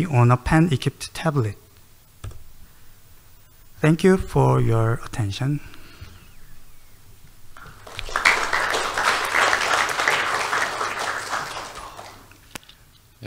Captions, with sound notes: on a pen-equipped tablet. Thank you for you attention. (audience clapping)